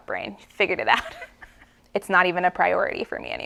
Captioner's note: laughs